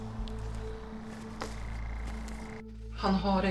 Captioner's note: distant humming; threatening ambient music